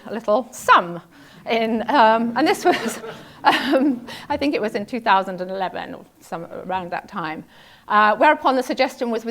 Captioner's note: laugh